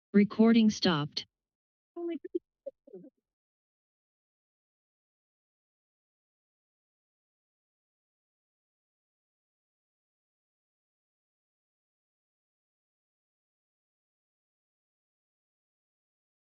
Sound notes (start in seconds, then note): 1.3 silence; 13.0 silence